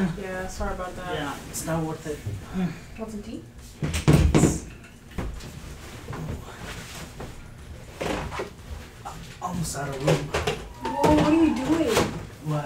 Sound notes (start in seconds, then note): 2.4 sighs; 10.8 laughing